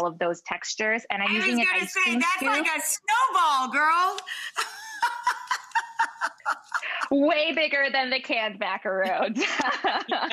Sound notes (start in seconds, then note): 4.5 laughs; 9.1 Rachael laughs; 9.6 laughs